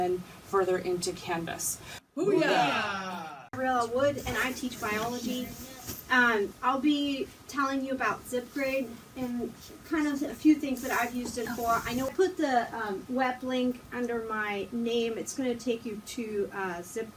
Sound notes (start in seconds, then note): 2.1 team saying "boo yah" enthusiastically